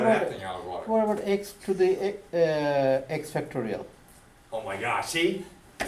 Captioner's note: voiceover